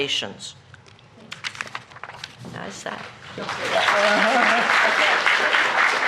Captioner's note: applause